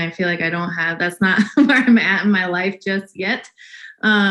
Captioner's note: laughs